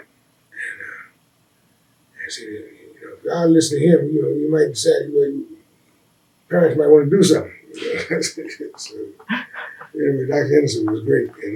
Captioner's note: laughter